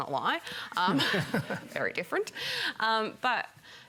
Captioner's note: laughter